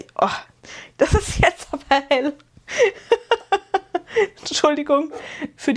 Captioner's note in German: gelächter